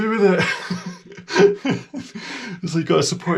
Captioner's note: laughing